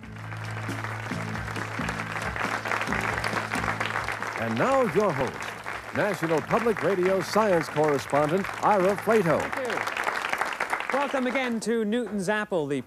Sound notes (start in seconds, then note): 1.3 applause